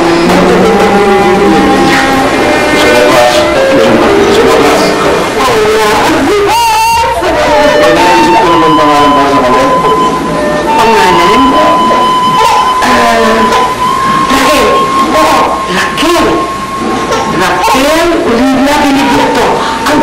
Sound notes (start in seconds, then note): 12.1 baby crying